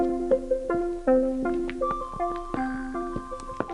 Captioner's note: footsteps